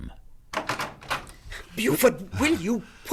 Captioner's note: door opens